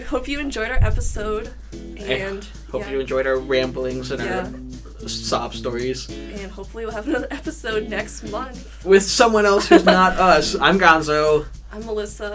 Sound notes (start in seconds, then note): 9.6 laughs